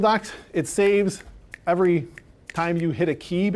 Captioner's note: snapping fingers